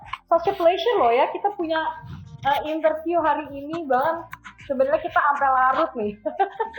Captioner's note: laughs